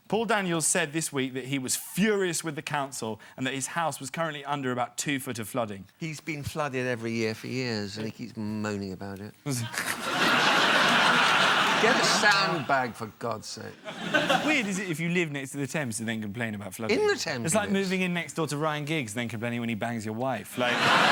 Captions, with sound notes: Paul Daniels said this week that he was furious with the council, and that his house was currently under about two foot of flooding. He's been flooded every year for years, and he keeps moaning about it. (AUDIENCE LAUGHTER) Get a sand bag, for God's sake. It's weird, isn't it, if you live next the Thames, and complain about flooding? In the Thames. It's like moving next door to Ryan Giggs, and complaining when he bangs your wife.